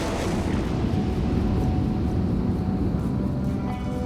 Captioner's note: explosions